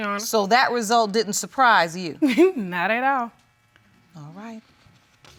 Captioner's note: laughs